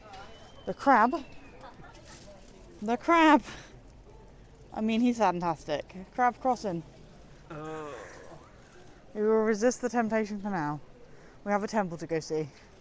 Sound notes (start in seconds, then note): 7.5 groans